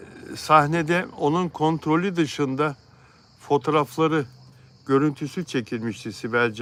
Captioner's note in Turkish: homurdanır